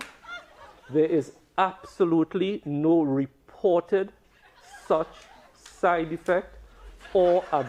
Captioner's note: laughter